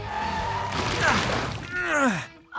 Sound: grunting

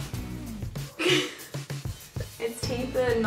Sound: laughs

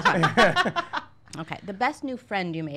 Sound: laughing

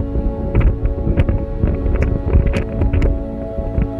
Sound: heavy wind gusts

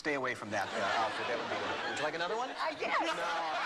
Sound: laughter

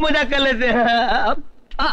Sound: laughing

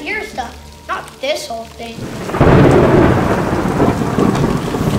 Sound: thunder booms

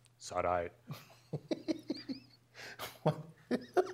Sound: laugh

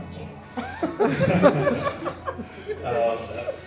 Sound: french laughters

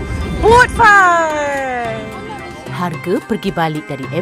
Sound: speaking German

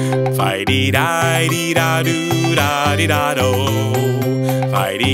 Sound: grasshopper humming

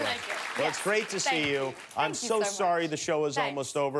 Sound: cheers and applause

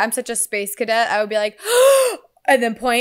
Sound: shocked gasp

